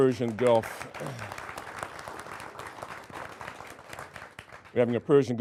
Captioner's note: applauding